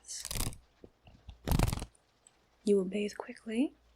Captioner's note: fan opening and closing